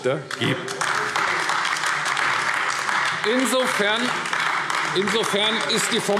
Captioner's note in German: Beifall AfD